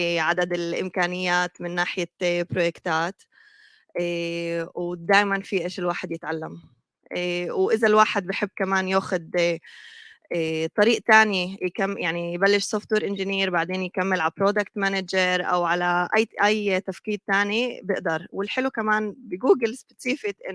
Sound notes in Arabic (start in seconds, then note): 2.3 لغة أجنبية; 12.0 لغة أجنبية